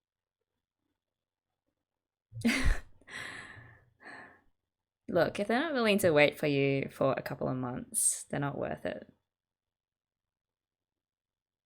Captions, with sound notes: [laughs] Look, if they're not willing to wait for you for a couple of months, they're not worth it.